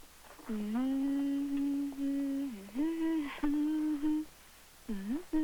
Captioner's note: hums a song